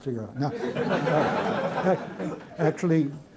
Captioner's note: laughter